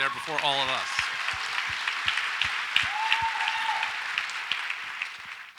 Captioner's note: audience applauds